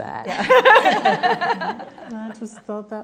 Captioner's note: laughing